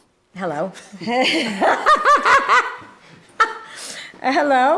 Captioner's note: laughing